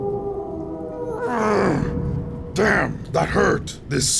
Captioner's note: werewolf howling